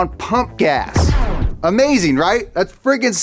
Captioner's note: pow sound